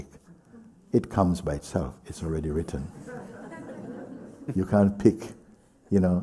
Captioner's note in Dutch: gelach